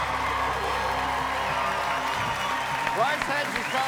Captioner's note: cheers and applause